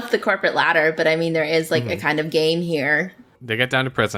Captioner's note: laughs